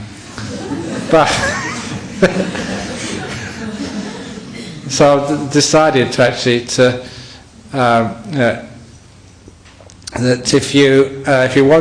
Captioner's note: laughter